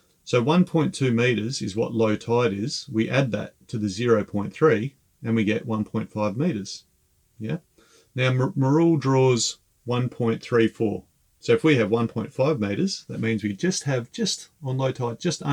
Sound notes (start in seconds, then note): none